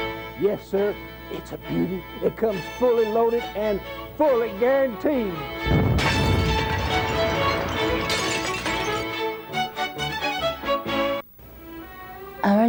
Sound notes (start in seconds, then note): 8.8 explosion